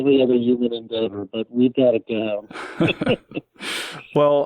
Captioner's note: laughs